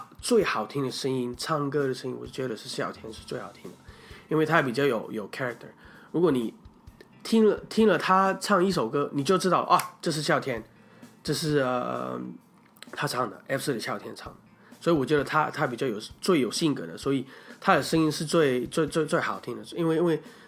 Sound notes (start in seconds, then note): 9.8 click!